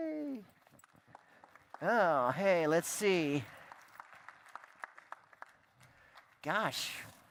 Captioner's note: applause